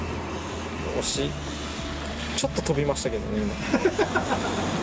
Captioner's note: laughs